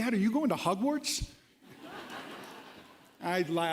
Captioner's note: laughter